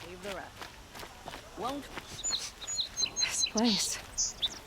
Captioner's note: sniffs